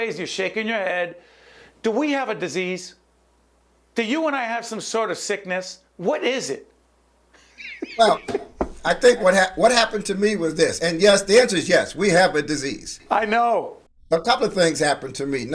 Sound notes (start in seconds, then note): 7.4 laughing